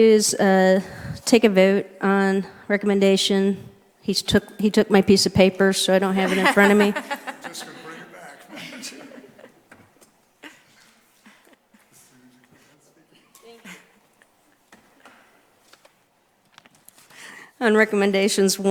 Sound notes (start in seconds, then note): 7.9 chuckling